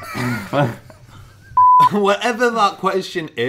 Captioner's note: laughing; beep